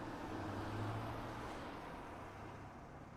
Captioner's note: car sound